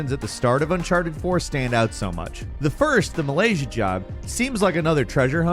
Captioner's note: none